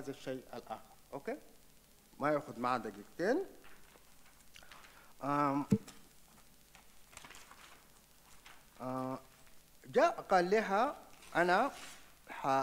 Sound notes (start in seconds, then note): 1.8 speaks in foreign language